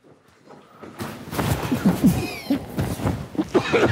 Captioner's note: sumo suits rustling; coughing